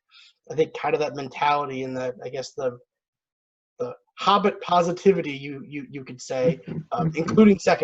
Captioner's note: chuckles